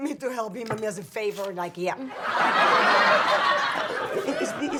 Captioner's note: audience laughs